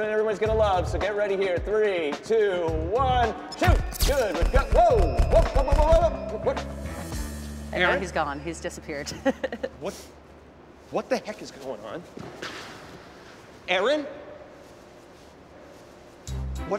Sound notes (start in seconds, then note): 9.0 chuckles